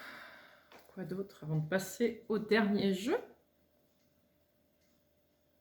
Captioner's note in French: soupir